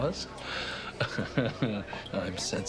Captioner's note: Aidan laughs